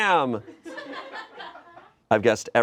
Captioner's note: friends laugh